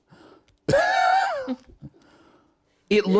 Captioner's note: laughs